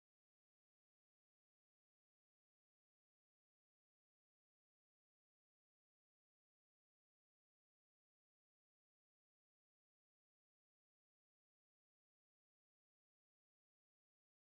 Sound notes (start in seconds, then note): none